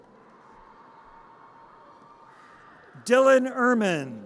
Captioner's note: audience cheers